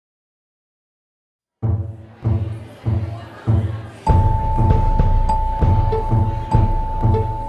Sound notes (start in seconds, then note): 1.9 upbeat music; 2.0 people chattering